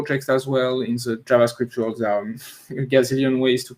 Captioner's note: chuckles